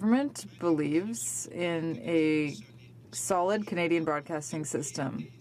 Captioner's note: speaking in french